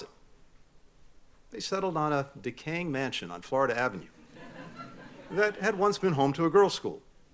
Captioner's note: laughter